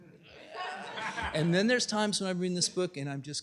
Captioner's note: laughter